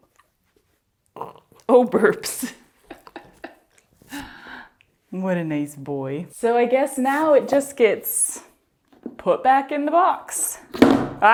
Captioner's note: big puppy burp; laughter; clunk